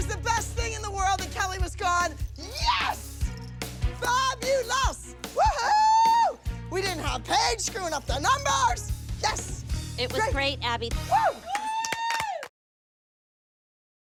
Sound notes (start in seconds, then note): 11.1 cheering